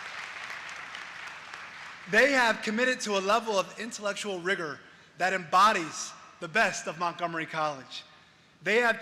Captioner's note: applause